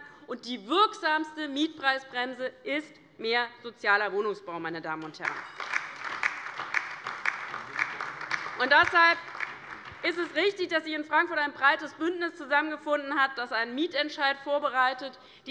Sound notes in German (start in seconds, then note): 5.2 Beifall bei der LINKEN und bei Abgeordneten der SPD